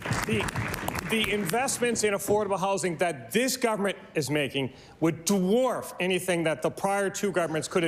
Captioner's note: applause